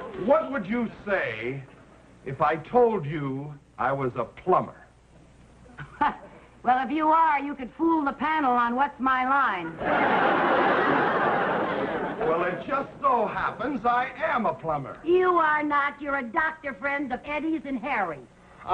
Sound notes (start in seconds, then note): 0.0 audience laughing; 5.7 laughing; 9.7 audience laughing